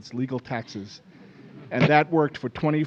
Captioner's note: laughing